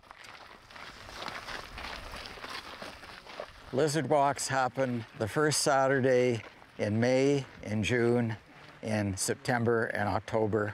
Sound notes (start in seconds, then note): 0.9 sound of footsteps on gravel